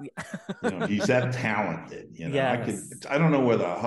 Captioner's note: laughs